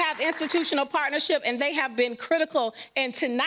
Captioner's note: applause